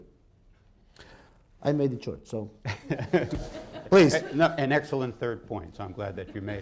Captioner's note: laughter